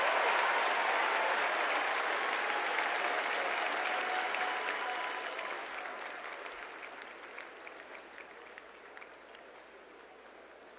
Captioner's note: cheers and applause